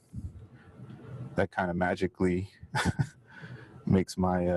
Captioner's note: chuckles